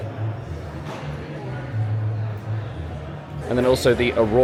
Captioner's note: guests chatting indistinctly continues